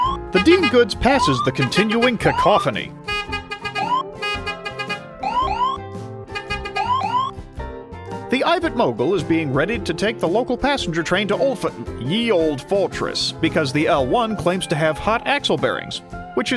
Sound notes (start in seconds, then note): 4.2 beep beep, woop woop